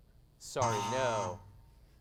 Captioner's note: buzzing sound